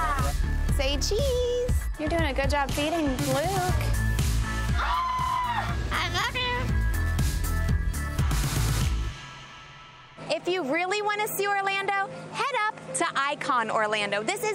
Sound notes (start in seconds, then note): 2.1 screaming; 4.5 upbeat music